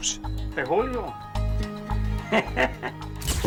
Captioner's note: speaking spanish